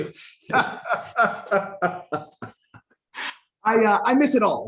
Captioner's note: laughing